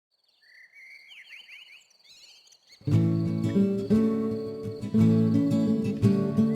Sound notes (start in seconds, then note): 0.1 birds chirping; 2.9 slow beat music